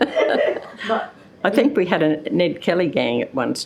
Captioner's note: chuckle